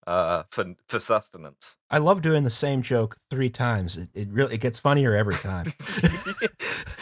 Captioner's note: flatly; exhausted laughter